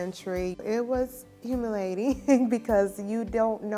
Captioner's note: chuckling